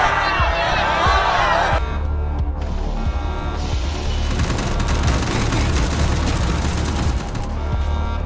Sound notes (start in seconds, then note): 1.9 alarms blaring